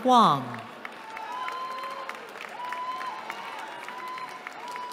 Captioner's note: cheering